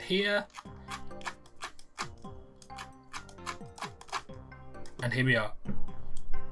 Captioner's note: scroll wheel sounds instensify